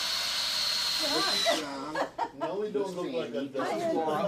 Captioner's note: chattering